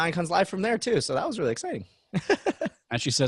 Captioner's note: chuckles